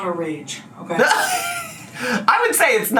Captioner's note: laughs